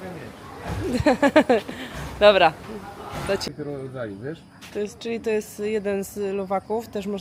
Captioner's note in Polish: śmiech